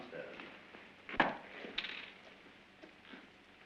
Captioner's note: door opens